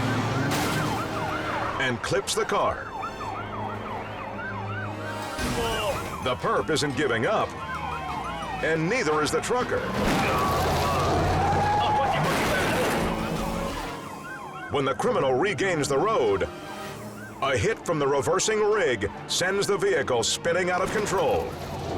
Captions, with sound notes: (siren wailing) And clips the car. (siren wailing) The perp isn't giving up and neither is the trucker. (car screeching) When the criminal regains the road a hit from the reversing rig sends the vehicle spinning out of control.